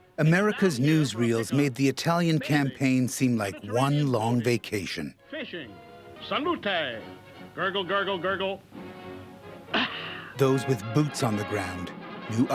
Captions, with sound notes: seem like one long vacation. - [Voiceover] Fishing, salute, gurgle, gurgle, gurgle. (man gasps) - [Voiceover] Those with boots on the ground knew otherwise.